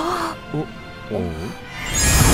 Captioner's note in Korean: 밝은 음악; 남자와 여자의 의아한 소리